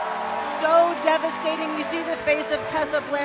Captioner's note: cheers and applause